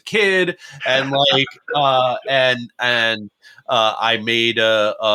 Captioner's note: laughs